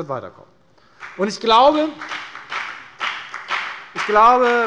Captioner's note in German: Beifall bei der FDP